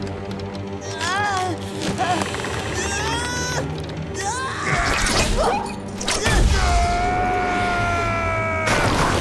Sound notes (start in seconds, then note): 0.7 grunting; 6.2 screaming